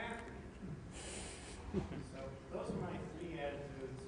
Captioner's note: laughter